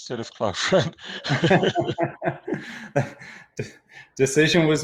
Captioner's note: laughing